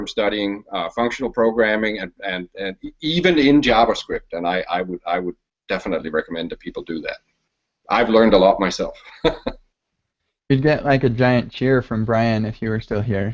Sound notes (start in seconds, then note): 9.0 chuckles